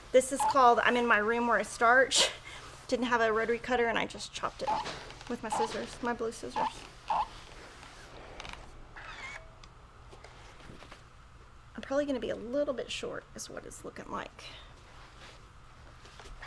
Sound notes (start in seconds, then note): 2.4 chuckles; 5.4 iron squeaks; 8.0 iron squeaks